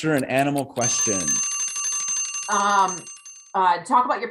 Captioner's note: clock rings